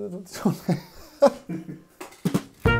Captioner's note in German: lacht sinnlos